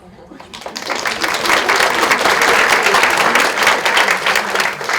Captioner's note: audience laughs